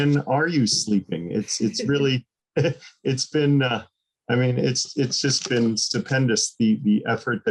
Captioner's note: laughter